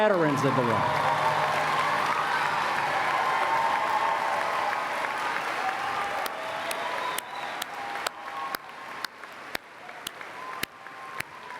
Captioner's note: applause